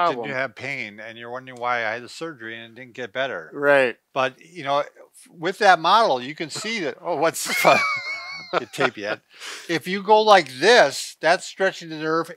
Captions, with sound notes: - Then you'll have pain and you're wondering why, "I had the surgery and it didn't get better." - Right. - But you know, with that model, you can see that-- (chuckles) Oh what's that, don't need tape yet. If you go like this, that's stretching the nerve,